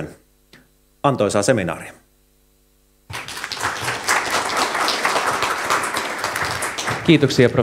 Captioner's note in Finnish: Aplodeja